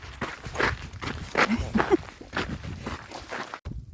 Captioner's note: laughs